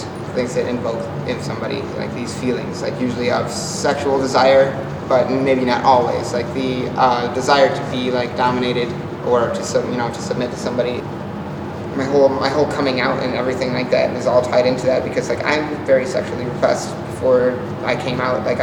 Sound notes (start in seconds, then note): none